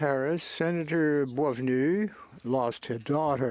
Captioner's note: speaking French